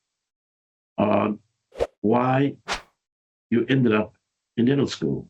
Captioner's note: air whooshing